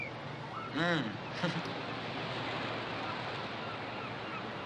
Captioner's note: chuckling